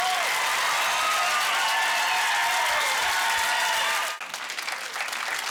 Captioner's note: applause